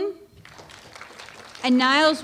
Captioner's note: applause